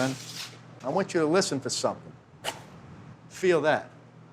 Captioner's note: quick chopping sound